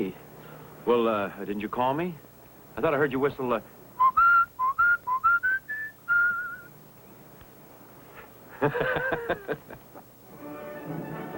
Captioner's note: whistles; laughter